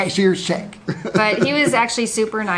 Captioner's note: laughs